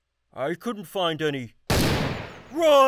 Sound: gunshots

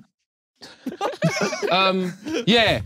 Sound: everyone laughing

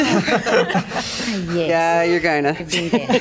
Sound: laughter

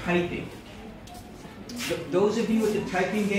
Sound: kids talking

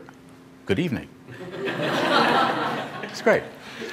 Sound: laughter

